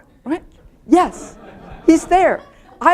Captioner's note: laughter